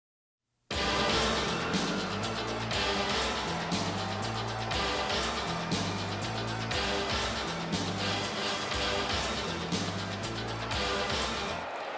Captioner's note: crowd chatter